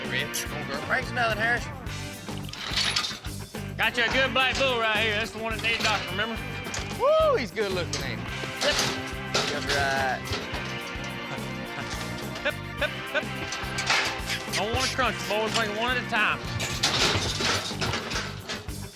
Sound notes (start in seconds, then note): 13.4 gate clanks; 16.0 gate clanks